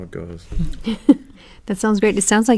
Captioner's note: laugh